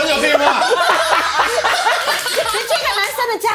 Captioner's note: laughs